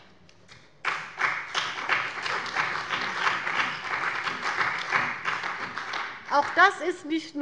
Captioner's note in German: Beifall bei dem BÜNDNIS 90/DIE GRÜNEN und der CDU